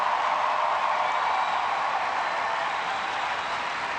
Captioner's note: cheers and applause